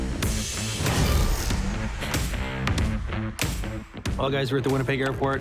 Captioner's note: text whooshes